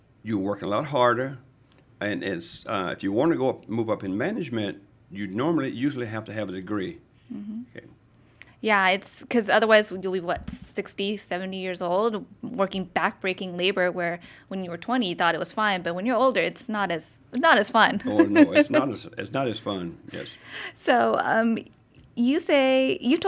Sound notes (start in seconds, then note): 18.0 laughing